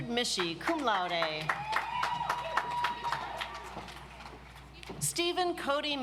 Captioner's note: audience applauds